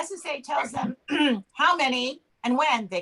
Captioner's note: clears throat